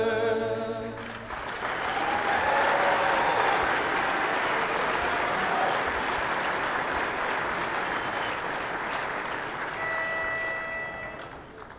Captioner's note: applause